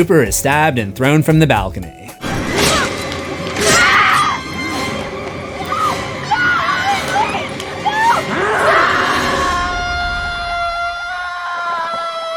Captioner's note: screams